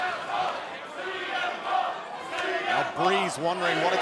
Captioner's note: fans chanting